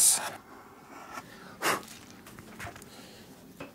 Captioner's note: he blows